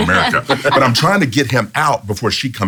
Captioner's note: laughs